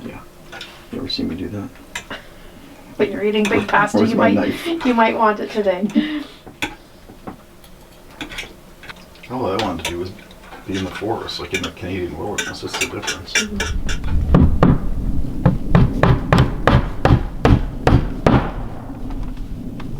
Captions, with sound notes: - Yeah, you ever seen me do that? - When you're eating big pasta, you might-- - Where's my knife? - You might want it today. - All I want to do is be in the forest, like in a cave, what's the difference? (knocking)